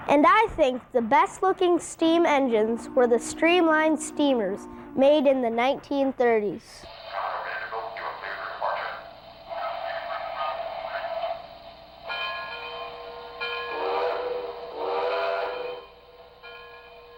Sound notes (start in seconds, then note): 7.2 voiceover; 12.1 bell clanging; 13.7 horn blowing